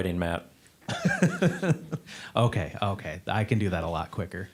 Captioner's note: laughing